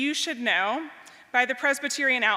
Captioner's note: none